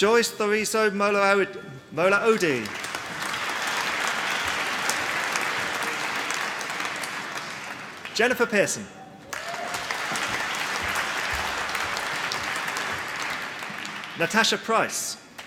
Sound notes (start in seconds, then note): 2.3 applause